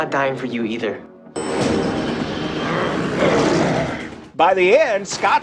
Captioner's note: elevator bell and growling